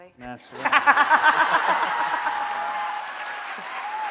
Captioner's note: laughing